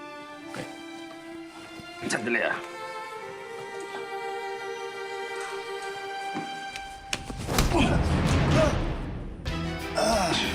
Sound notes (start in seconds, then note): 7.1 grunts; 9.6 groans